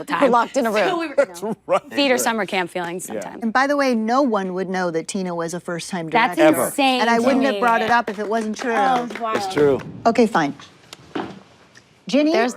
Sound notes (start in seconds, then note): 7.5 everyone applauds